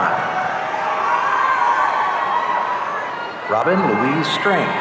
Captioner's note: audience cheering